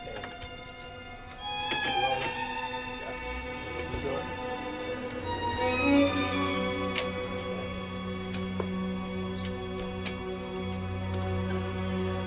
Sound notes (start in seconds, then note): 5.4 door creaks open